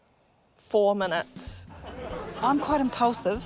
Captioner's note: laughter